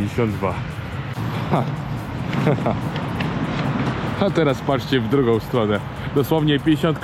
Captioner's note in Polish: śmiech